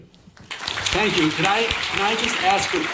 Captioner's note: audience applauding